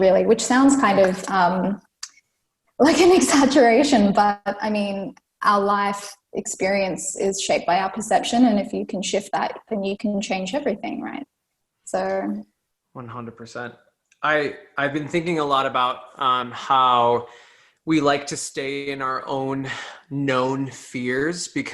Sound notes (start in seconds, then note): 3.5 laughs